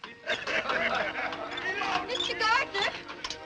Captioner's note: men laughing